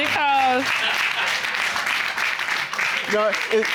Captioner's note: audience applauding